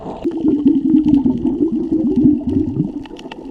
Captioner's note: water bubbling